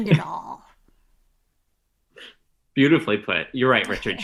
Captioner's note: laughs